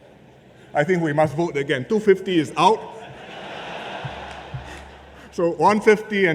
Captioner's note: laughter